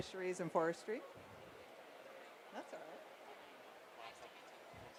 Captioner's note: background chatter